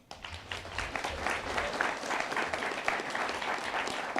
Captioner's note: attendees applauding